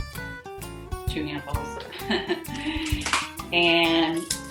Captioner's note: laughs